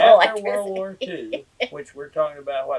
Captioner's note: laughs